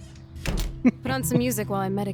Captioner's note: laughs